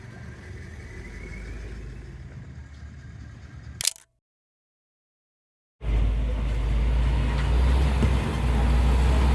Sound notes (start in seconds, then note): 5.8 loud truck noise